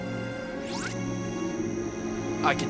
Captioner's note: weapon powering up